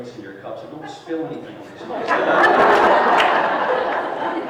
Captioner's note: laughter